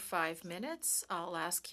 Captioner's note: speaking in French